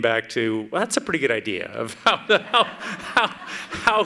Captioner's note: laughs